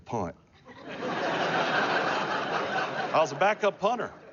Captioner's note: laughter